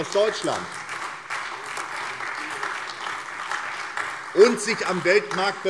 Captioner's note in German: Beifall SPD, vereinzelt CDU und AfD